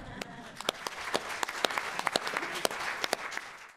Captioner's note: applause